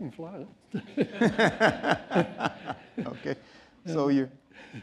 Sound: laughter

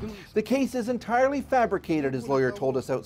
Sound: speaking foreign language

